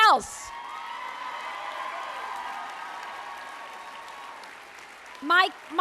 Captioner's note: applause